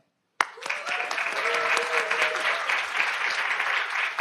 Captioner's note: audience applauding